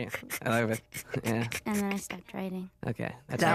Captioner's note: laughing softly